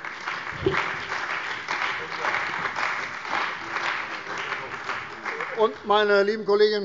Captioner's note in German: Beifall bei der CDU und dem BÜNDNIS 90/DIE GRÜNEN